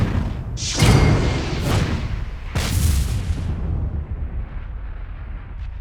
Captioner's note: whooshing sounds